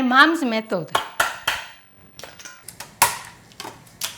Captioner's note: crab cracking